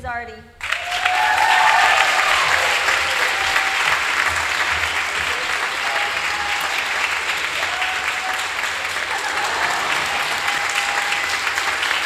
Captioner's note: applause